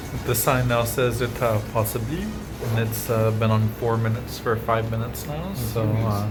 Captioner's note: french Gibberish